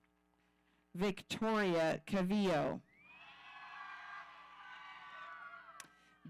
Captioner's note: audience cheering